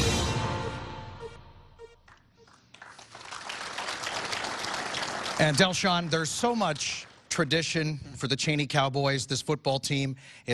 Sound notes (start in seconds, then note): 5.5 applause